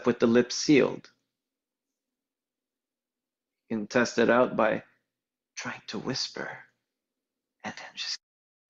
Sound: whispering

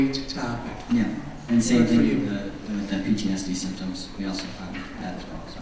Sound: voiceover

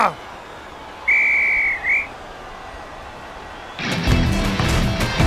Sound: screaming; whistle blowing; upbeat music

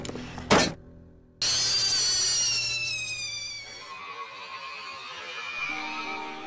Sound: thump; high Pitched Yelling

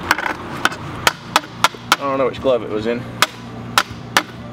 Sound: clanking

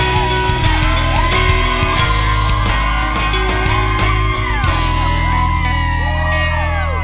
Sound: cheering

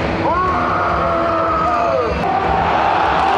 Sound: megaphone scream; full stadium chanting

